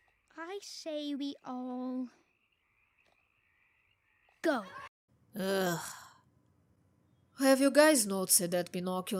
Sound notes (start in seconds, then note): 5.4 disgusted sigh